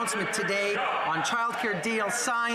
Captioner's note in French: voix de l'interprète